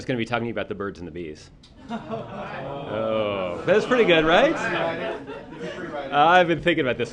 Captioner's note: laughter